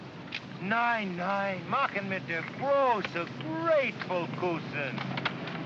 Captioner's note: photographer speaks in German